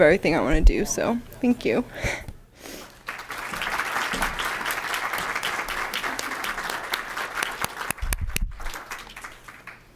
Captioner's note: applause